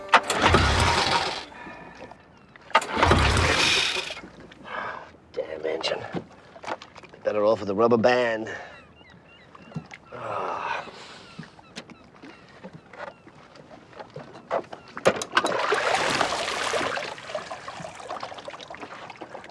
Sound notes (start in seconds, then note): 1.0 sighing; 8.4 seagulls cawing; 8.4 sighing